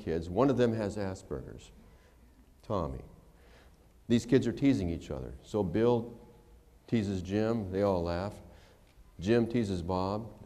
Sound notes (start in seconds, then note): none